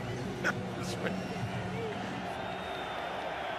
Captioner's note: laughing